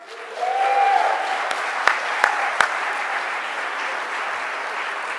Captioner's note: cheering and clapping